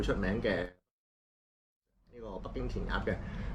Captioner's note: mute